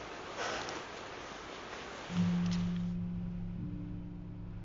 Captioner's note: sighs; car engine roaring